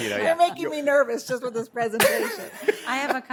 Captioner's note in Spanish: risas